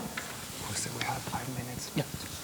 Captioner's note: whispers